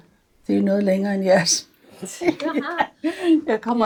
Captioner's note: laughs